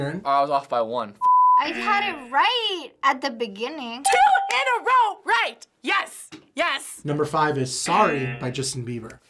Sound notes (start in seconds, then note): 4.0 ding